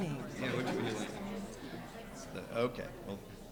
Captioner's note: people chattering